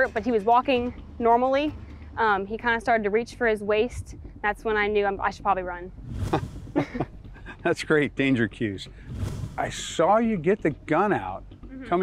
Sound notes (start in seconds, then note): 6.7 chuckles